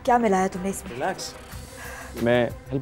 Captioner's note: Exhales